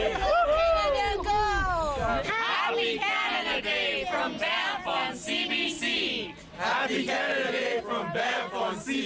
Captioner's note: cheering